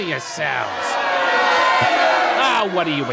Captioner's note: booing